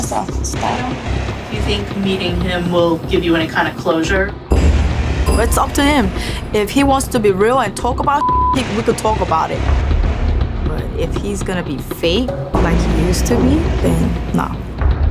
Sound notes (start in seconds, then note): 4.7 intense music; 8.1 beep